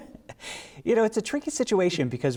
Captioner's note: laughter